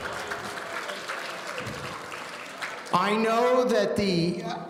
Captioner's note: audience applauding